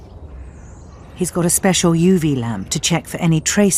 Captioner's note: voiceover